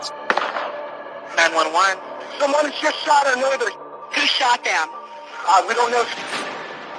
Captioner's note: gunshot